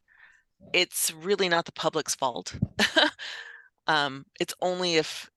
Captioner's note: laughs